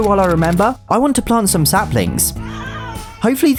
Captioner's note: Ralph meows